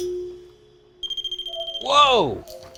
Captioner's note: wire ringing; eerie music